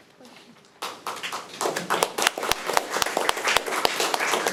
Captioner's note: audience applauding